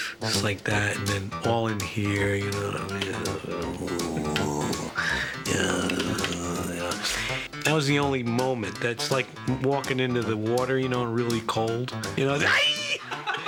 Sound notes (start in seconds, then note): 3.7 groaning; 12.2 screams